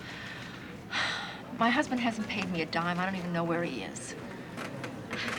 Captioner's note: sighs